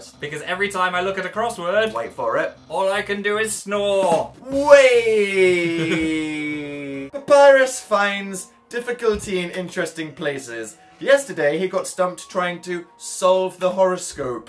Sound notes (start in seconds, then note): 4.4 ba dum tss; 5.4 chuckles